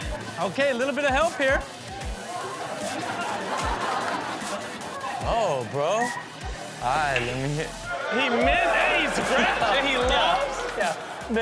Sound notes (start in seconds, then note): 2.2 upbeat music; 2.2 audience laughing; 7.1 ball clicking